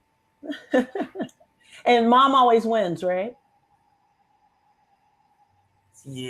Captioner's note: laughs